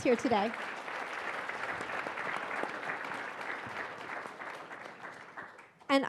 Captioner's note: attendees applauding